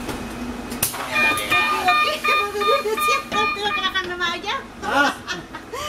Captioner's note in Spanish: risas